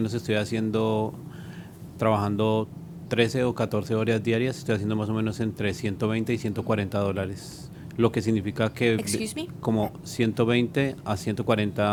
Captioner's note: speaking spanish